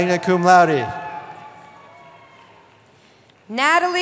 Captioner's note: cheering